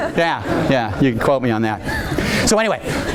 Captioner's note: audience laughing